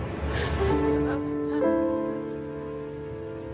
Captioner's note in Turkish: Ağlama sesi